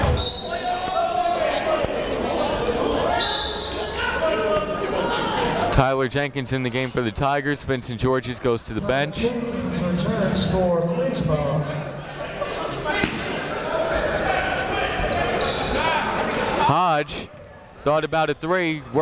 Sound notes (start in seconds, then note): 0.0 whistle; 0.6 chatter; 3.1 whistle; 12.2 chatter